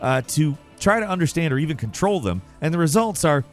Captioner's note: none